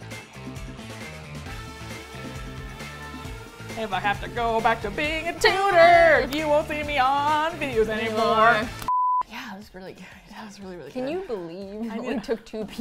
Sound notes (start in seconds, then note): 0.1 upbeat music; 3.8 singsong